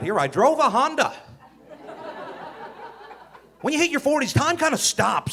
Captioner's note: audience laughing